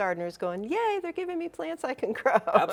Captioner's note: laughing